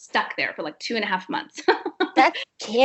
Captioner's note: chuckles